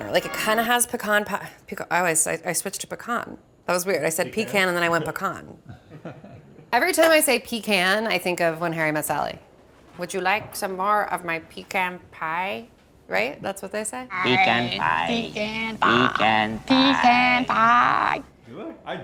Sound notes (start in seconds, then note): 5.6 chuckles